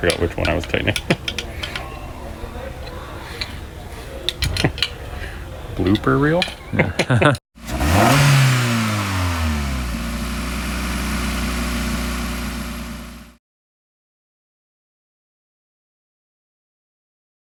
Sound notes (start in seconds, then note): 6.7 both laugh; 7.6 Miata engine revs